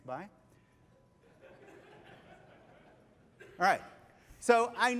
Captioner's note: laughter